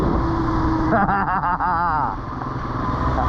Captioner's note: laughing